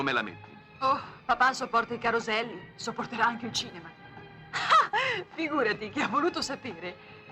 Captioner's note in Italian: risate